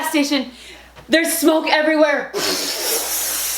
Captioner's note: air rushing